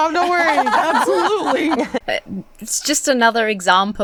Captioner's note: guests laugh